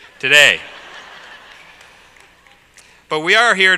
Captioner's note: laugh